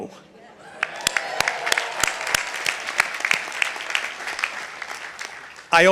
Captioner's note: audience applauding